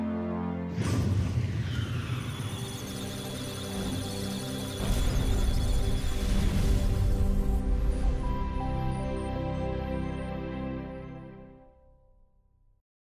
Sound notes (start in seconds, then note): 1.6 electronic Sounds of Data; 2.0 musical Tones